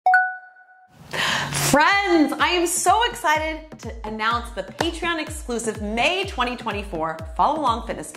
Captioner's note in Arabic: قرع الجرس